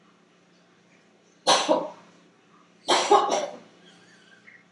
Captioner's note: coughing sound